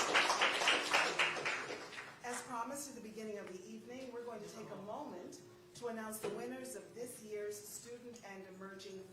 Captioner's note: applause